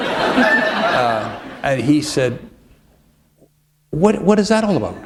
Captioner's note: laughter